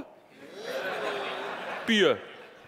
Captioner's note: audience laughing